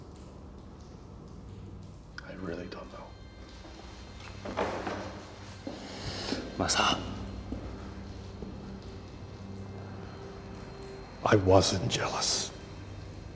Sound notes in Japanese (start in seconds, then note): 3.4 立ち去ろうとする音; 5.7 荒く息う音; 7.3 止まる足音